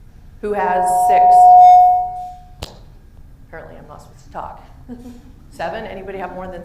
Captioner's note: feedback